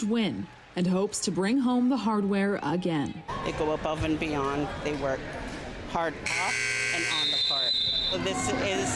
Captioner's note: cheering